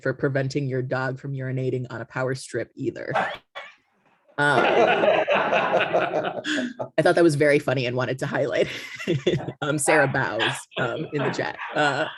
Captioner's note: laughter